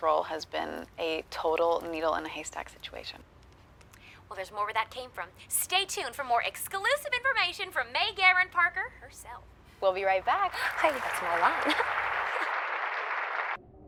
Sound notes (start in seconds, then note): 10.4 audience applauding; 10.5 giggles